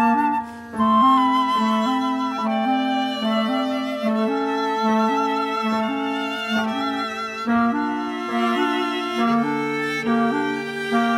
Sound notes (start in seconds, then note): none